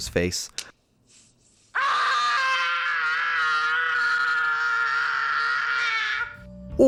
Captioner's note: screams